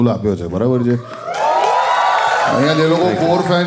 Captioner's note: crowd applauding